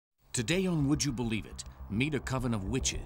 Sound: voiceover

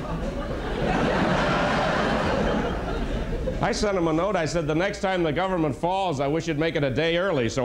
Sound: laughter

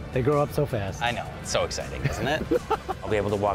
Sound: laughing

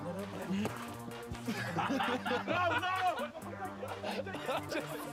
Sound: laughter

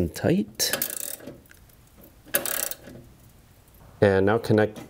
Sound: bolts turning

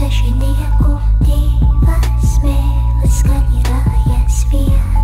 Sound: two tongues loudly scolding

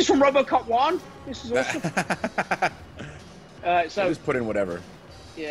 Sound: laugh

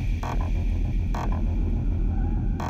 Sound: ominous rumbling; goulish breathing

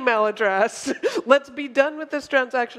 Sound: laughter

